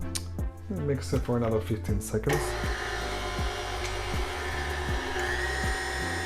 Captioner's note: blender churning